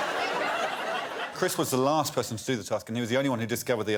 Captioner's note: laughter